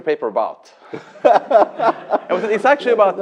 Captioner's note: laughter